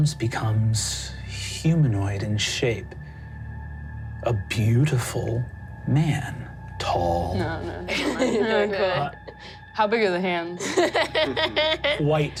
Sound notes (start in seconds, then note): 7.4 laughter drowns out speaker; 10.6 laughs